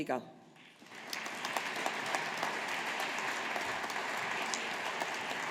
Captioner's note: audience applauding